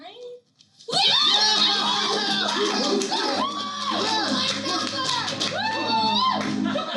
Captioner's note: cheering